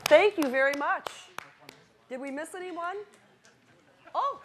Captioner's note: clapping